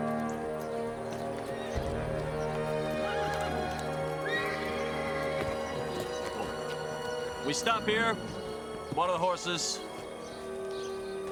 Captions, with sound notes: (horses walking) (horse whinnies) - We stop here, water the horses.